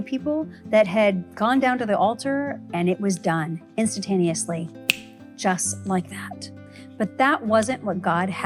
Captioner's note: snap